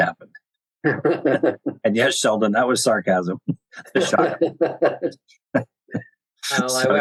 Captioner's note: laughter